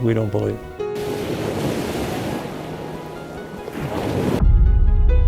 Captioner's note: waves crashing